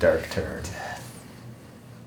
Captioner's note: whispering